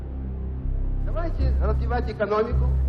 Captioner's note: speaking Russian